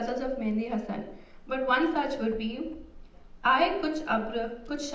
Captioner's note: non-english speech